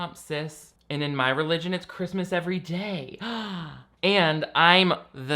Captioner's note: gasps